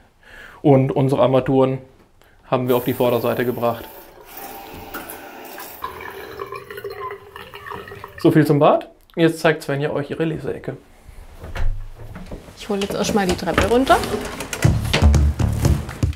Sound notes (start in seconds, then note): 5.6 rippling water; 14.4 casual music